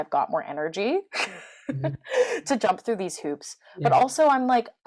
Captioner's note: laughs